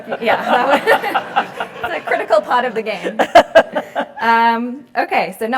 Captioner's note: laugh